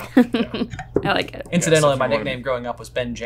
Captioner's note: laughing